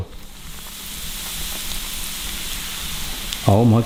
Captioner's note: oil sizzling